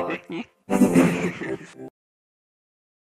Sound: both snickering

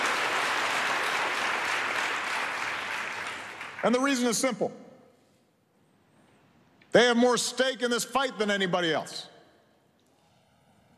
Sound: cheering and Applause

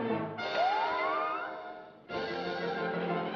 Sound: laughs

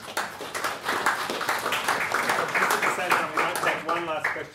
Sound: audience clapping

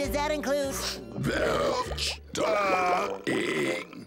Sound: burping

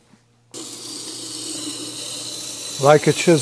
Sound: grinding noise

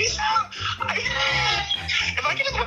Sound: laughs

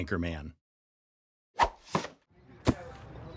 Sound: air whooshing; board thwacks; attendees chattering

